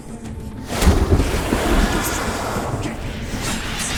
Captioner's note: thunder crashes; screech